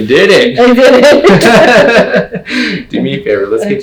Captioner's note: laughs